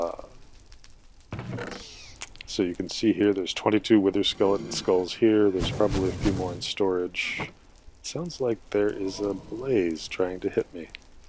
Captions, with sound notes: uh... [chest creaks] So you can see here, there's 22 wither skeleton skulls here, there's probably a few more in storage. [fireballs] It sounds like there is a blaze, trying to hit me.